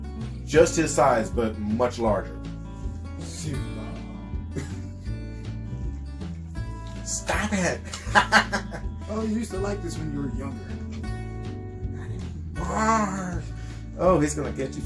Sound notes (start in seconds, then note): 5.0 laughter